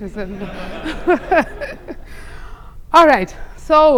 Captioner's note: laughter